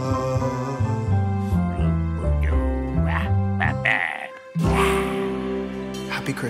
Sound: Grumpy vocalises

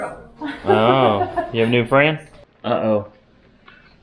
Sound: laughs

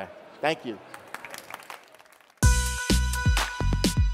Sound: applause

